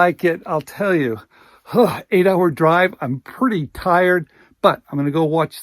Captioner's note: sighs